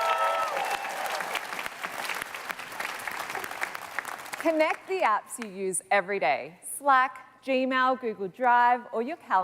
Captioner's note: cheers and Applause